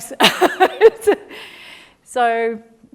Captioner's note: laughs